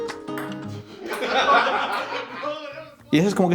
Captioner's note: laughter